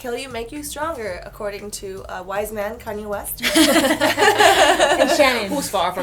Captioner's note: laughter